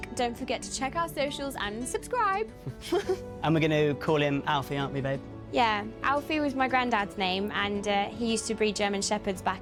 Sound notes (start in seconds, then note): 2.6 both laughing